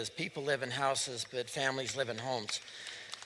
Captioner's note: applause